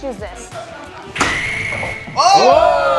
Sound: food exploding

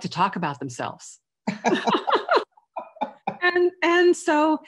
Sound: chuckling

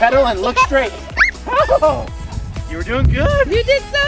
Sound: excitedly giggles

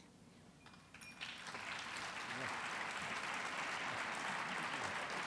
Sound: audience applauds

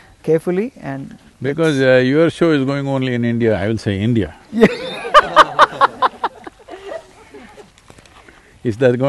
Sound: laughter

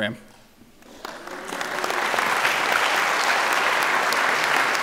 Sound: audience clapping

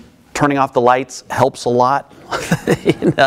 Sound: laughs

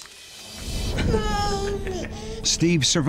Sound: baby chatter

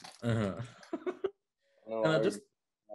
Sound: laughing

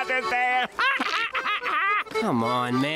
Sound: laughing

